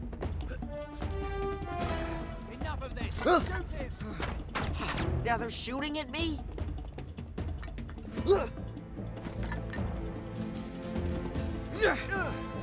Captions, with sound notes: Enough of this! Shoot him! (gunshots) Now they’re shooting at me!?